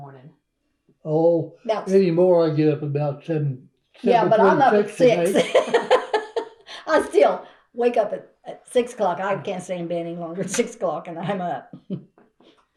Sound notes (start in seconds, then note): 4.0 laughs